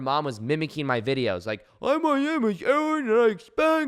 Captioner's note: mockingly